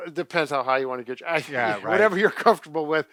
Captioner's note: laughs